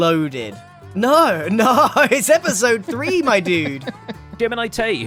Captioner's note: laughs